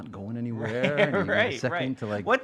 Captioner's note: chuckling